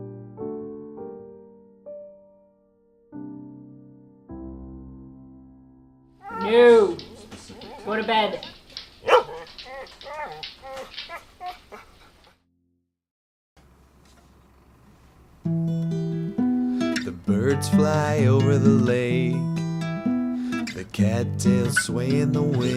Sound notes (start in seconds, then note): 6.2 dog whines, toenails clicking on floor; 8.6 dog barks and whines